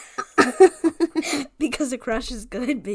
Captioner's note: laughs